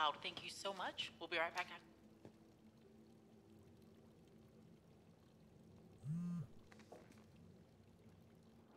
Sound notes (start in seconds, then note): 6.0 phone buzzes